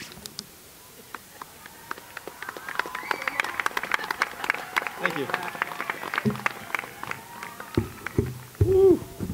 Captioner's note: applause